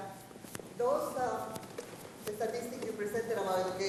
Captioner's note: speaks faintly